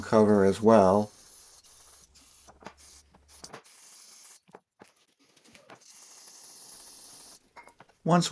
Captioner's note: spraying sounds